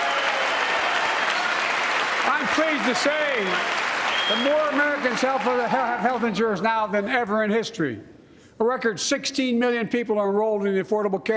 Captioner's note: applause